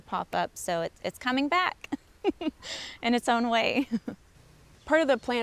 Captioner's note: laughs